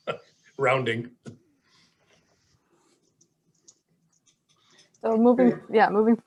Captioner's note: laughs lightly